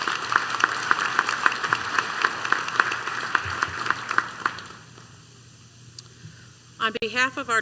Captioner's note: applause